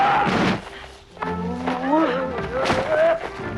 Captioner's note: body slamming